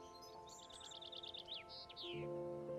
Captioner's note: birds chirping